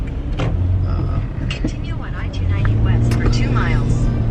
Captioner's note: GPS talking